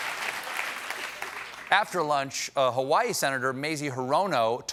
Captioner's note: applause